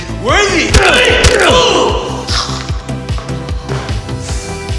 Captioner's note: Dr. Ravi cries out